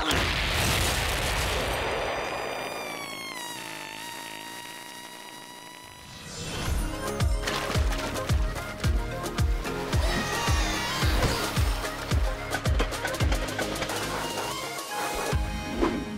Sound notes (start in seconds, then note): 0.0 explosion; 10.0 screaming